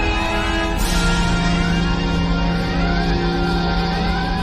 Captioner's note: transporter beam-out whine